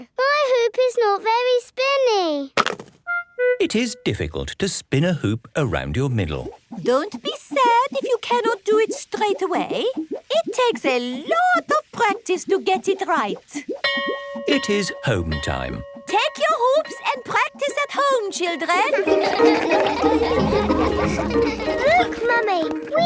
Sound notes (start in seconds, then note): 13.9 bell rings; 18.8 all laugh